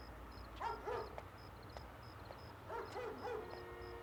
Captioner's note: dog barking